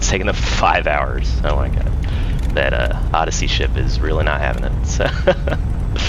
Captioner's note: laughs